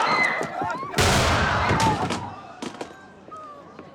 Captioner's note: screams; gunshot